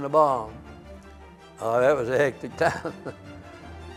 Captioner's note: laughs